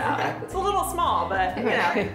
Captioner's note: laughter